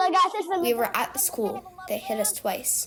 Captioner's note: through translator